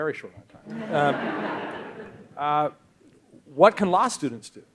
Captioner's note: audience laughs